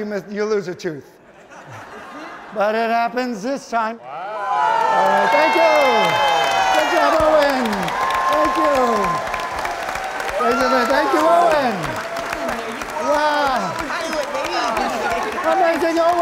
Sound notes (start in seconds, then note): 2.0 all cheering; 9.4 audience clapping; 12.4 panelists chattering